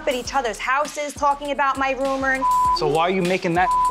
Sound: beep

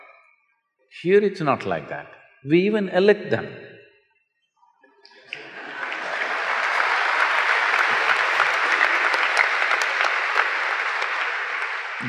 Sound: laughter/Applause

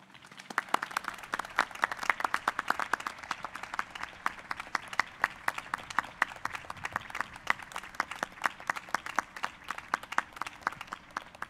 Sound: applause

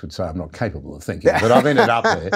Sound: Dave laughing

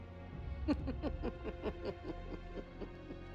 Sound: laughs

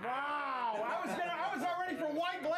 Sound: ta laughs

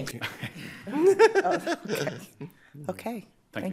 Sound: attendees laughing

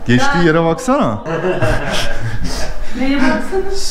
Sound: laughs

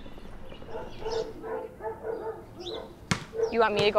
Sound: dog barking

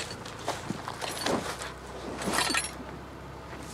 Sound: metal clanking

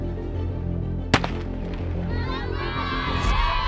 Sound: starter pistol pops; audience cheers

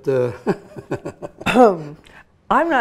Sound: laughs

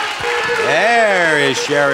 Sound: audience applauding; wheel beeping

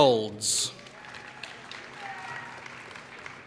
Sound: applause

